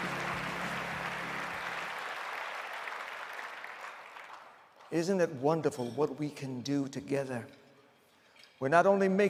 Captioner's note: applause